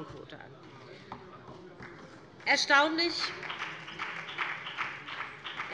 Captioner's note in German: Beifall BÜNDNIS 90/DIE GRÜNEN